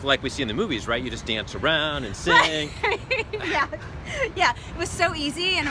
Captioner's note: laughs